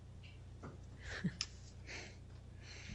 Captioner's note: laughter